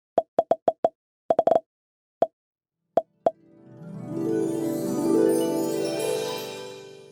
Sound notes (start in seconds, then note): 0.0 popping; 3.3 whimsical music